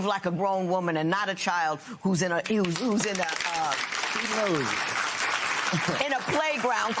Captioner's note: applause